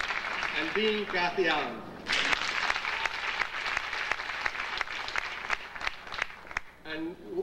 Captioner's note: audience applauding